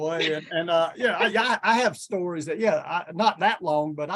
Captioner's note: chuckles